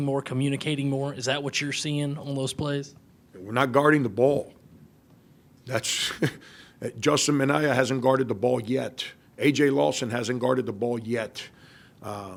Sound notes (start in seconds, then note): 5.8 laughs